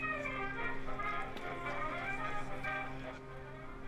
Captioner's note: ship horn blaring